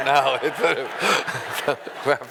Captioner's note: laughing